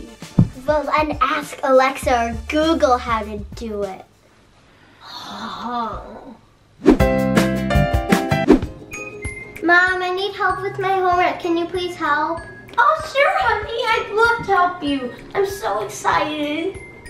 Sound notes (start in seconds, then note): 4.9 sigh